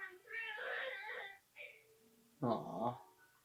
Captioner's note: cub sobs